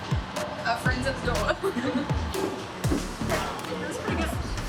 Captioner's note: laughs